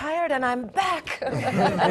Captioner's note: laugh